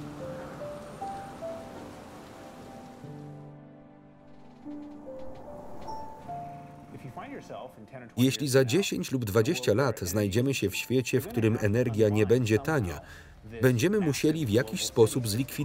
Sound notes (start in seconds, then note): 3.2 crickets chirp